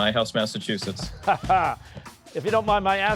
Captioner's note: laughs